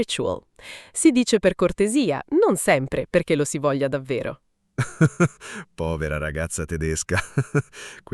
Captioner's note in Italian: risate